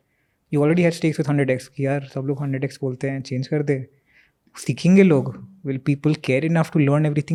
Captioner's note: speaks in Hindi